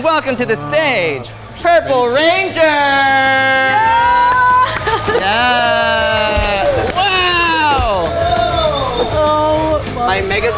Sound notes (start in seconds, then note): 3.6 cheering; 8.2 crew cheering